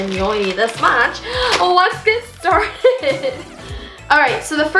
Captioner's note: chuckles